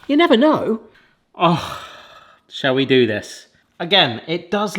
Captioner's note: sniffs